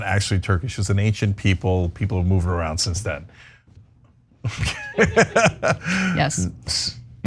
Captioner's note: laugh